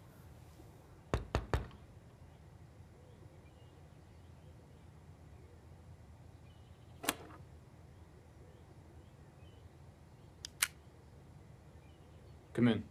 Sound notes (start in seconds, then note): 1.1 hand knocking